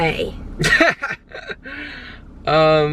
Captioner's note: chuckling